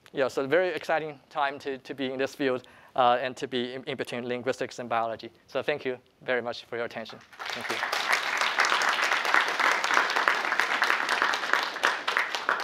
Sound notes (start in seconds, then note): 7.1 applause